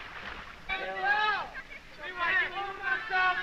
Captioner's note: boys exclaiming